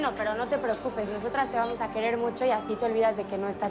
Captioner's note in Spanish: Suena el celular